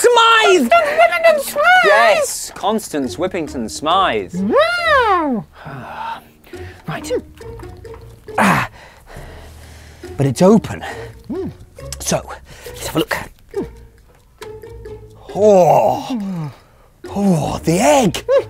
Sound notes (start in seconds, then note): 0.4 frantically; 2.0 frustrated; 4.3 sighs